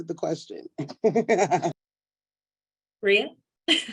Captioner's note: laughs